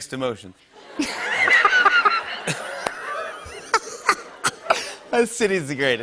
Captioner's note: laughter